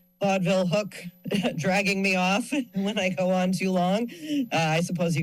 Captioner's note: chuckles